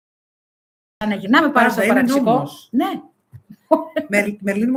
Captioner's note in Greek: γέλια